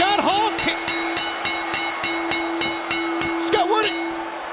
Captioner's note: bell ringing